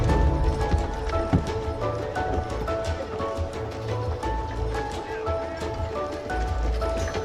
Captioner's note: lively music; horse hooves clopping; lively music continues